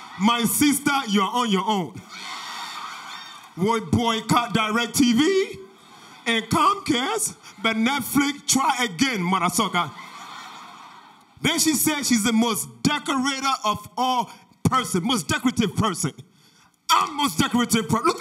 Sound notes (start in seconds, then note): 0.0 audience laughter; 2.1 audience laughter; 9.6 audience laughter